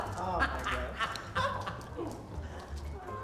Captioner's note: laughs